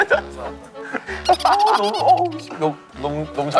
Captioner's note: laughing